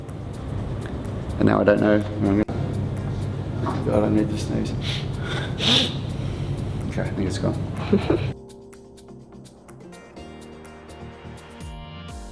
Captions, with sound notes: And now I don't know what I'm gonna... God, I need to sneeze. (sniffles) Okay, I think it's gone. - (laughs) (rhythmic instrumental music)